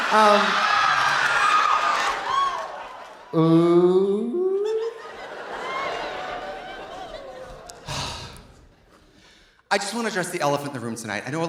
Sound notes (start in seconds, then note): 0.0 audience cheering; 0.1 audience laughing; 4.7 audience laughing; 7.8 Trixie sighs